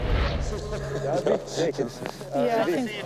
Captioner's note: person laughing; group talking